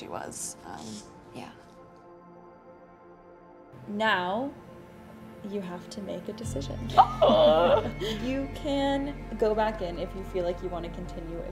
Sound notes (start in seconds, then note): 6.9 speaker One laughs happily; 7.1 squeals